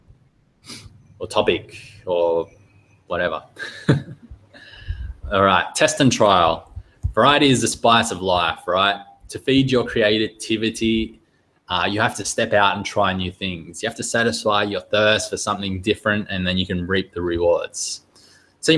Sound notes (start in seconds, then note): 3.5 chuckling